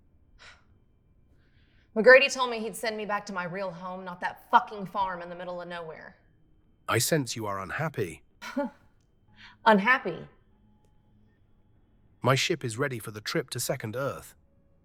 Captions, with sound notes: McGrady told me he'd send me back to my real home, not that fucking farm in the middle of nowhere. - I sense you are unhappy. - (laughs) Unhappy? - My ship is ready for the trip to Second Earth.